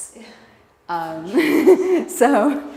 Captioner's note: laughter